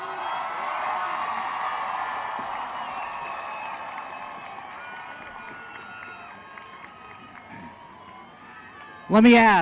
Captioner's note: applause